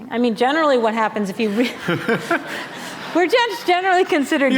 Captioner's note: laughter